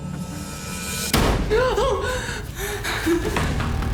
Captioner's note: loud bang; she gasps; intense music